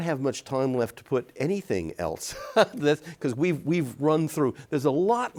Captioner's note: chuckles